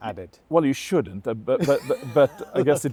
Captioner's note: laughs